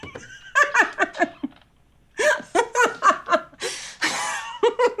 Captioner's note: laughing